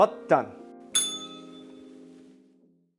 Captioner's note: bell rings